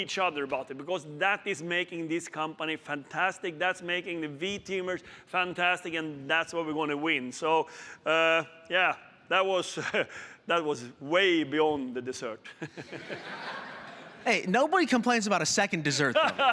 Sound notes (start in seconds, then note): 12.4 laughter